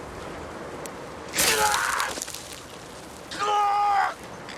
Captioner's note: glass groaning